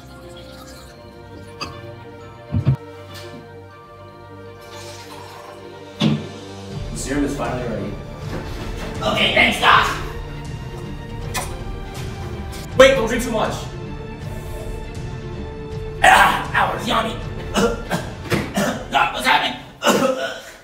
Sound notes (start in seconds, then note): 11.1 loud sipping noises; 14.0 loud sipping noises continue; 17.4 ryan coughs in pain